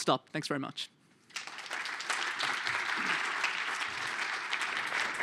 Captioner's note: applause